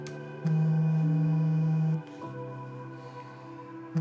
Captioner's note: phone buzzing